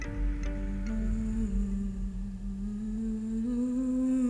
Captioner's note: humming